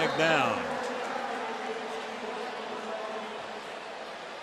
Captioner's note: pa announcement